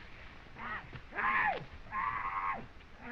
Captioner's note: yelling